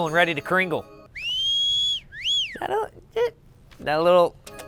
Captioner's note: whistles